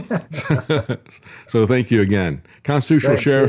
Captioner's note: laughs